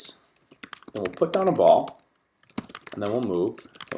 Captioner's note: keyboard types